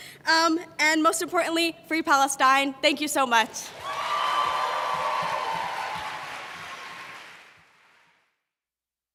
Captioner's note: applause